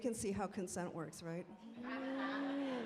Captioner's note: laughing